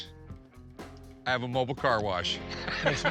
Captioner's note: laughing